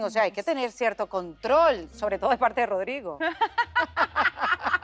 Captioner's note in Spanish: Ríe